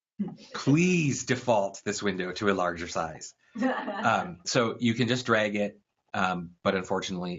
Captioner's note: laugh